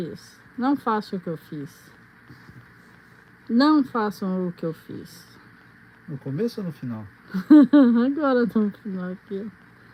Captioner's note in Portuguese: risadas